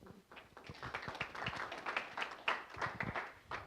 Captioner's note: applause